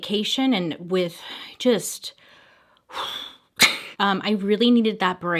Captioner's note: exhales